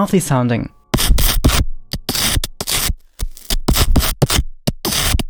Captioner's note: digital sounds